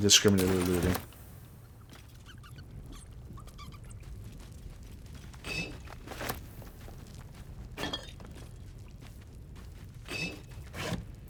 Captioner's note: silence